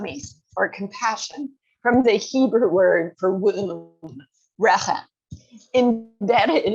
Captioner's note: hebrew